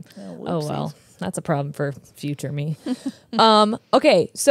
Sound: chuckles

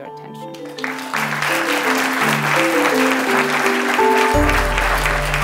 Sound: applause

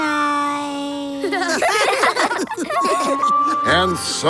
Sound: laughing

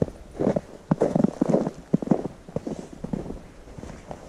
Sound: feet crunching on snow

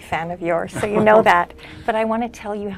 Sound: laugh

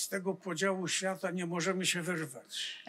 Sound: foreign language

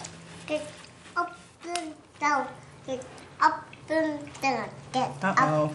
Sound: child babbling

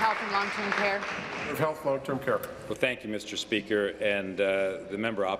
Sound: applause

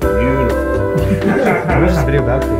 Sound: laughing

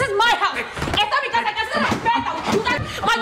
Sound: speaks spanish

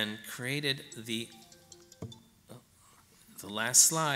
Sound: phone alarm rings

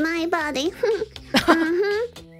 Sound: chuckles

